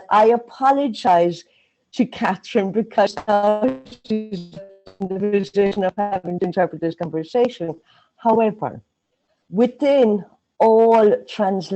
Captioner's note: sound distortion